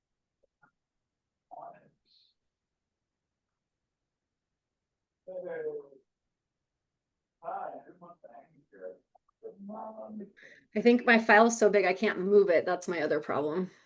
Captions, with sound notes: (indistinct conversation) I think my file's so big I can't move it, that's my other problem.